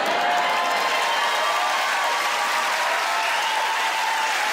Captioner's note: audience cheers